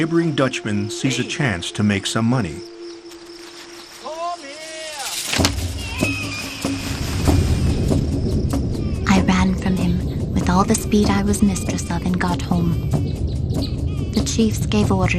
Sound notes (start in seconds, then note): 4.9 grass rustles; 5.7 baby cries